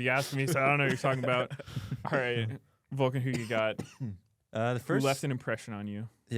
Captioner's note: laughs